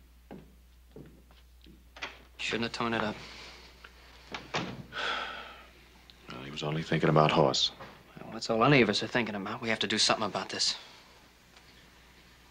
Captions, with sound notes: [ door opens ] - He shoulda torn it up. [ door shuts ] [ Adam sighs ] - Well, he was only thinking about Hoss. - Well, that's all any of us are thinking about. We have to do something about this.